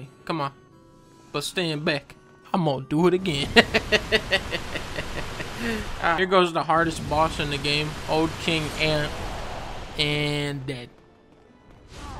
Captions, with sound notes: Come on. But stand back. I'm gonna do it again. [ laughs ] Here goes the hardest boss in the game. Old King Allant. Annnnnd... ...dead.